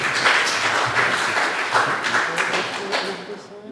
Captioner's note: audience applauds